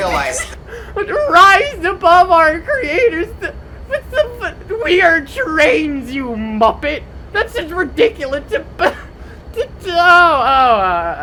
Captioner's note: laughing